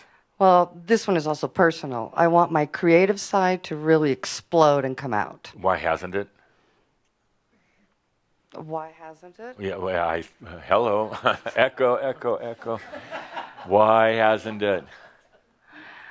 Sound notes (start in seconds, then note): 11.0 chuckles; 13.4 some laughter